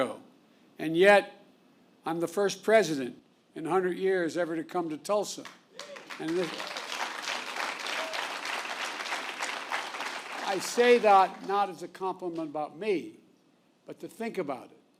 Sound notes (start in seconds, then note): 5.4 applause